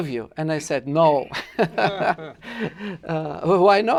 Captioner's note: laughter